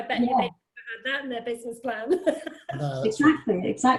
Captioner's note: laughs